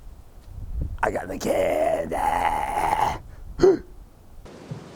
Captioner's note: gasps